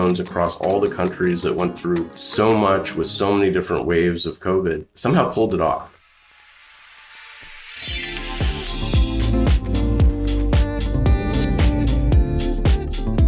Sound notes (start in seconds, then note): 6.2 static noise; 7.5 upbeat music